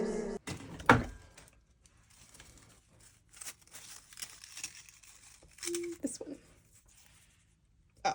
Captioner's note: clank; epic rustling noises